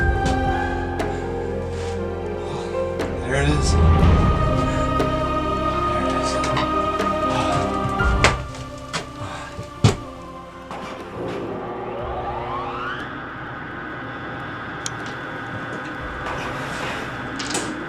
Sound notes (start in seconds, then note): 12.6 generator Powering Up; 15.3 generator Running